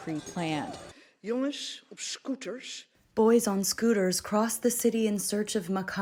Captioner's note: through translator